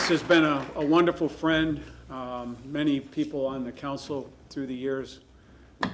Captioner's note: applause